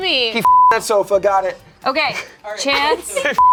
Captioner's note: beep; beep